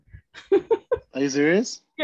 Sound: laughs

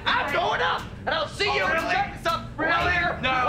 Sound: arguing

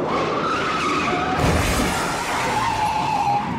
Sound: tyre skidding and crash

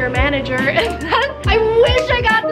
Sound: laughs

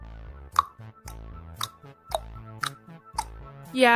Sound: tongue clicking timer

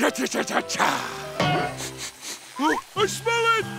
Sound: sniffing

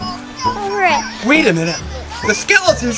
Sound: toy talking

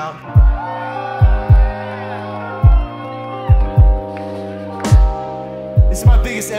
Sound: audience cheers

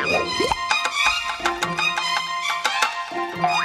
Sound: loud tapping

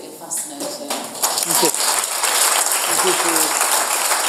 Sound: audience applauds

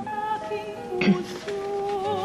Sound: clears throat

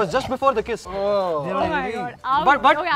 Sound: disgusted

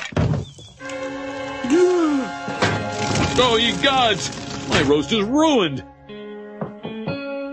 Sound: gasps

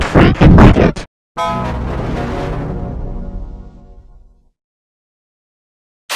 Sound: 18-Eyed Devil Windows XP Shutdown Sound

